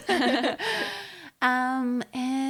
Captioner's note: all giggling